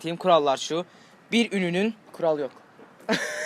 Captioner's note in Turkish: Gülme sesi